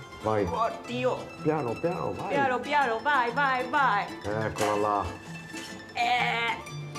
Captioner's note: they speak italian